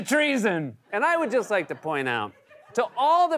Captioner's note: laughter